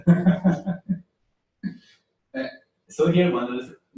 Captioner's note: pause